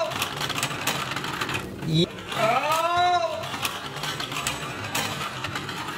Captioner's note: metal and plastic clanking